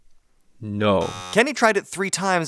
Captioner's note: buzzer beeping